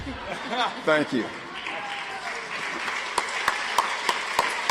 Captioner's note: audience applauds